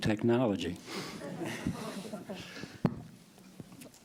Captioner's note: laughter